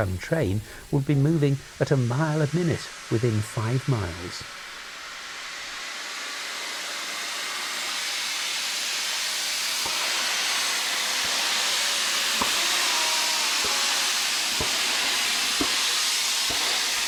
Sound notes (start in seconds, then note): 7.8 train passing